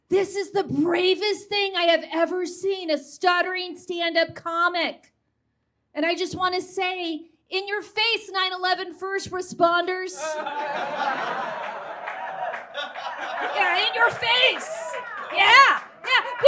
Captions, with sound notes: this is the bravest thing I have ever seen, a stuttering stand-up comic! And I just want to say “In your face, 9/11 first responders!” [audience guffaws] Yeah, in your face! Yeah!